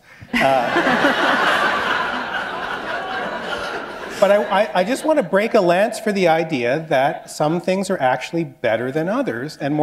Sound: laughter

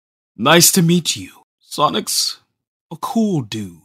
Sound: none

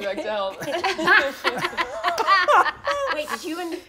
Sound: all laugh

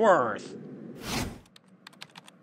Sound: swoosh

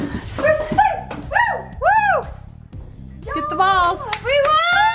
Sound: cheering

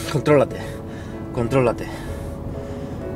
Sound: sighing again

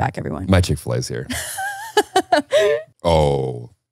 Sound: laughing

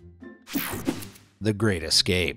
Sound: image whooshing

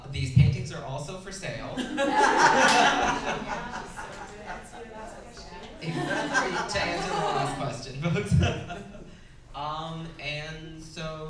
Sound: laughing the crowd

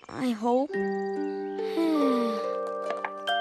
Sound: sighs

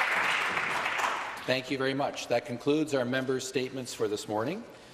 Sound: some Applause

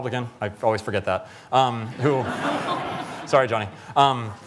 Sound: laughter

